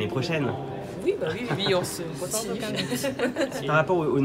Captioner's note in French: rires